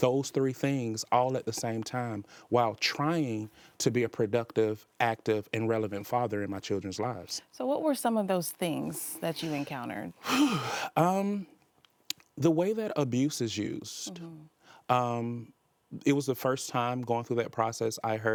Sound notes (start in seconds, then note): 10.2 sighs